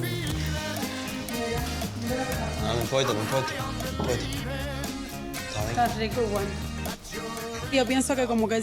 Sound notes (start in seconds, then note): 0.9 speaking Spanish